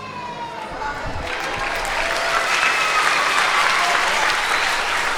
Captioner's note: audience applauding